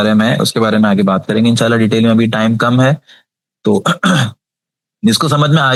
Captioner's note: sound of clearing throat